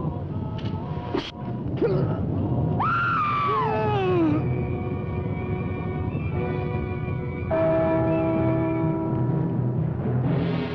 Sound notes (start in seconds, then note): 2.0 Bill grunting; 2.8 Pat screaming; 8.0 bell chiming